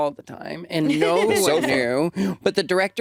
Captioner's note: laughs